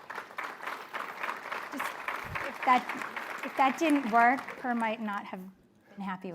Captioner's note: applause